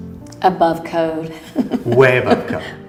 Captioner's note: laughs